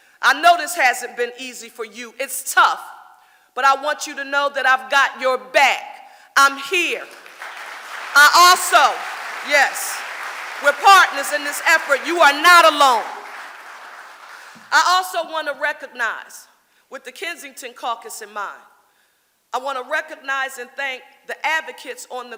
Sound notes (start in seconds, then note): 7.3 audience applauding